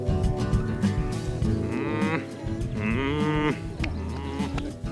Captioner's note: grunting